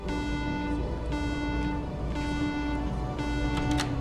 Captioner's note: alarm beeping